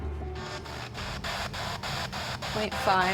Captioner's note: spirit box scanning